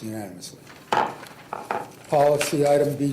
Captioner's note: gavel bangs